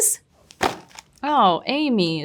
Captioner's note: packaging thudding